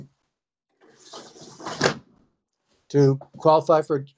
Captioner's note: window closes